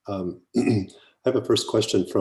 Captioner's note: clears throat